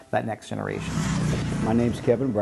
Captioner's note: motorcycle engine revs